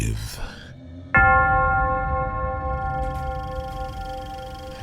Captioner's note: bell chiming